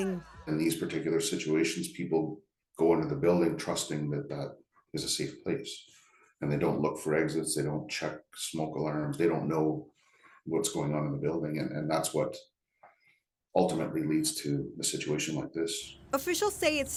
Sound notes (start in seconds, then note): none